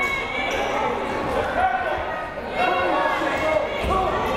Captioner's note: crowd murmuring